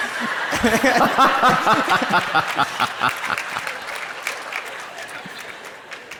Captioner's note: crowd laughs and applauds; Dr. Dispenza laughs loudly